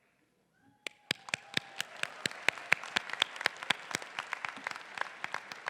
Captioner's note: faculty and audience applauding